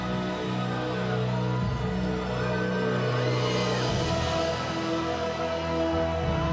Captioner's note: audience cheering; suspenseful music